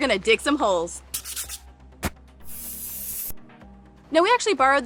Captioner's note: graphics scratching